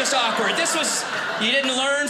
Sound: audience laughing

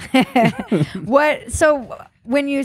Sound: laughing

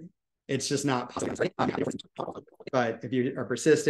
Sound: audio warbles

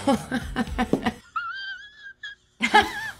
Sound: laughing

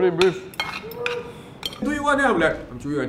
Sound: breathing noises

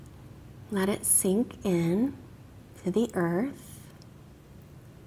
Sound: none

